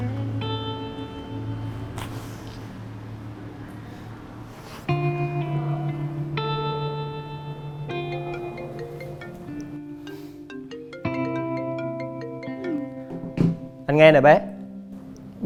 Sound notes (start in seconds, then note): 7.7 phone ringing